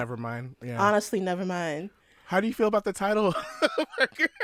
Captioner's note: laughter